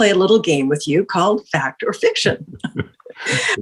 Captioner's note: both laughing